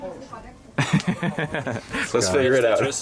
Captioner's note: laughing